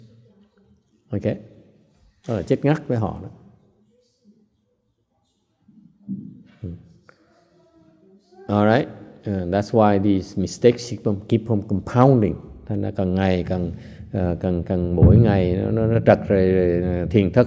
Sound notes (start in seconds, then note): 3.8 silence